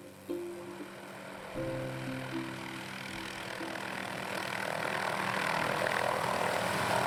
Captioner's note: helicopter whirring